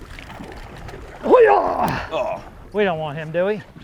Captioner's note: groans